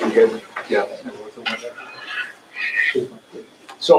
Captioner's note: chatter